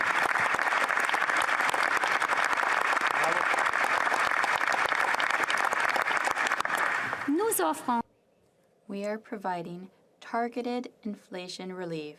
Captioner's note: applause